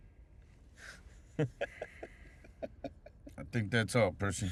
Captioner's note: laughing